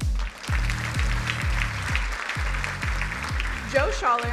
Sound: crowd applauding

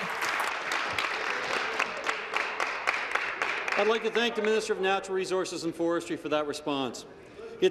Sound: applause

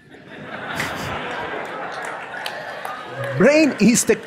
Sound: audience laughs

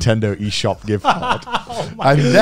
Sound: laughing

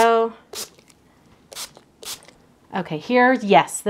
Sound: bottle spraying

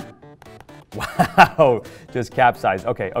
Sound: laughing

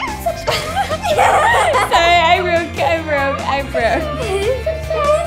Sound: laughs

